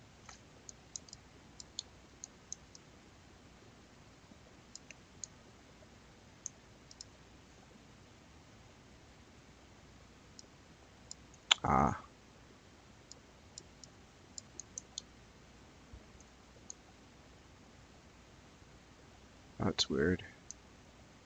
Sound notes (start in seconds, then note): 0.6 mouse clicking; 11.5 clicks tongue; 14.3 mouse clicking; 21.0 mouse clicking